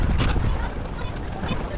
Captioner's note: wind blowing